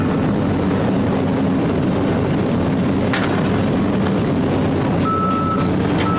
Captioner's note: engine Rev